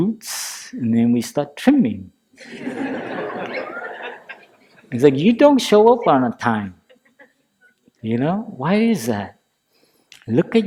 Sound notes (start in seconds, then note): 2.4 laughter